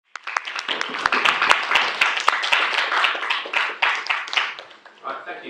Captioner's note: applause